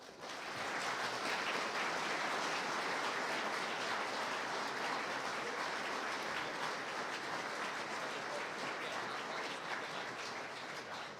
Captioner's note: applause